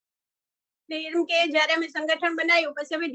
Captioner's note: non-english speech